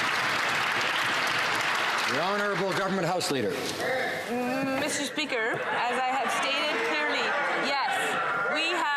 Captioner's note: some Applause